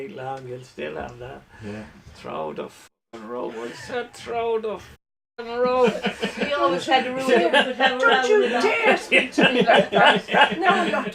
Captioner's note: laughter